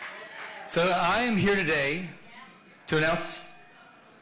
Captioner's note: applause